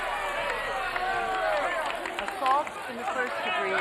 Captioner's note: crowd cheering